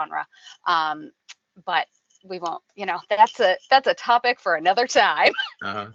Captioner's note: laughing